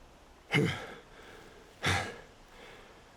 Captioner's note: catching breath